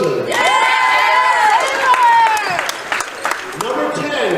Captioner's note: cheering